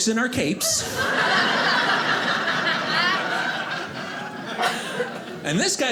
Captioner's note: audience laughing